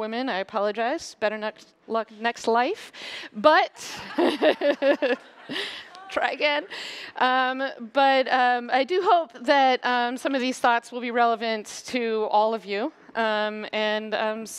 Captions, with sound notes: of you who are not women y apologize. Better luck next life. (Laughter). But, try again --. So I do hope that some of these thoughts will be relevant to all of